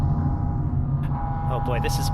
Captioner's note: sirens blaring as the ship enters the hangar